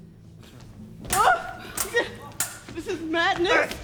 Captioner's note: swords clang